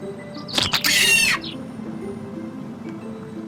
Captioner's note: squirrel screeches